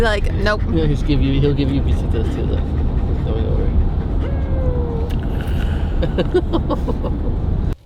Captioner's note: kisses